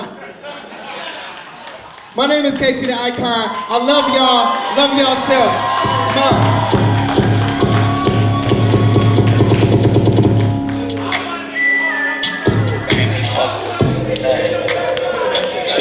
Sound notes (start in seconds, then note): 0.0 audience laughs; 5.7 slow music; 6.0 audience cheers; 6.9 overlapping chattering